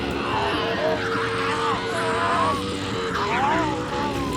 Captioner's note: Riley shrieking